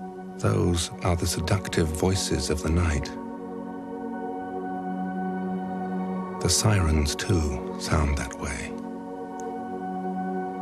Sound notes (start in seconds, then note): none